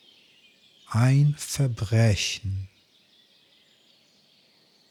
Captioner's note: german